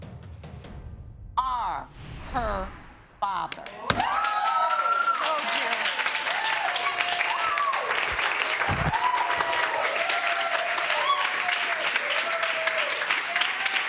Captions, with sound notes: ...are her father. (AUDIENCE CHEERING) Told you. (AUDIENCE APPLAUDING)